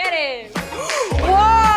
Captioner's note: gasp